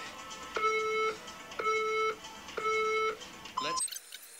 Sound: counter down timer from the phone on screen is heard

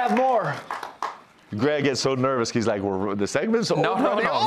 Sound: cheers and applause

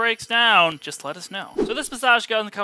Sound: air whooshing

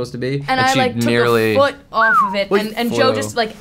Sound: Joe whistles

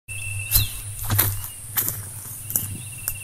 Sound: footsteps

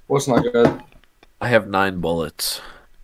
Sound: sigh

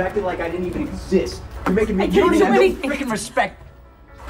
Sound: arguing in background

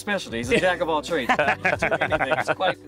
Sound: all laughing

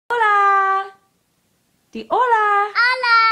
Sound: speaks in foreign language

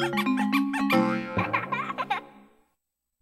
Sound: boing, child laughing

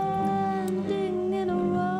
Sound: closing tap

